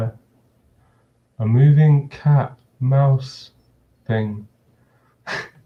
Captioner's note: chuckles